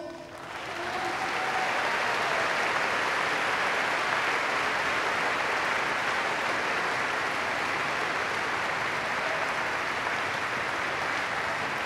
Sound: applause

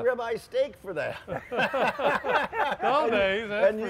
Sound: laughing

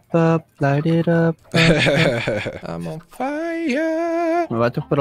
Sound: chuckles

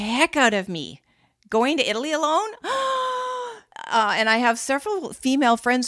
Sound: gasp

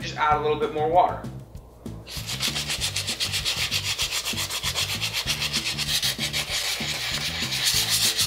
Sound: sanding

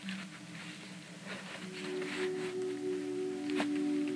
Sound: brush rustling

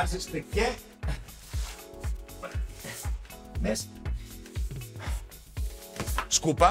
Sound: groans

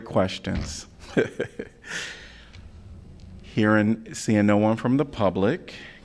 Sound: laughter

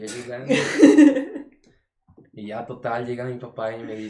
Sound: laughter

